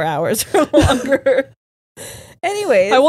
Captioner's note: all laughing